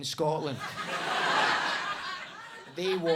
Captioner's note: audience laughs